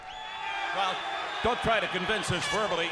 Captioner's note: crowd cheering